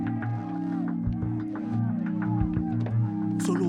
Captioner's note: chatter